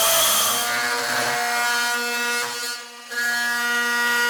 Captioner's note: equipment drilling